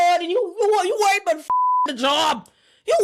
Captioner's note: beep